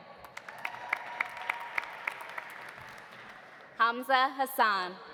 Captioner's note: audience applauding; audience cheering